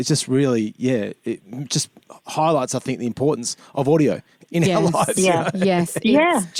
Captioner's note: laughter